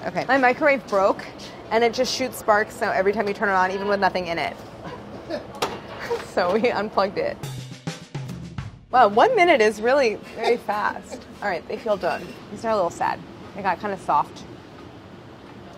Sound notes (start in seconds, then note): 5.1 crew laughs; 7.4 jazzy percussion